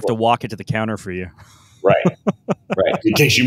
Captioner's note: laughs